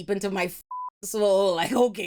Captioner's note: beep